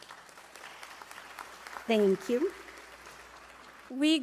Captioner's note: applause